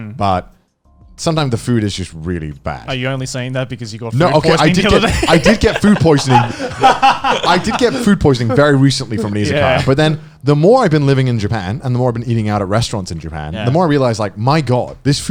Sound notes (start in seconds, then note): 6.5 laughing